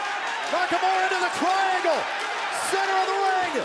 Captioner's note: crowd cheering